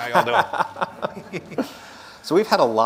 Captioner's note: laughs